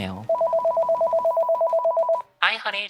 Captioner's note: phone ringing